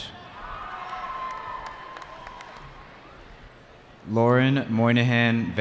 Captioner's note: cheering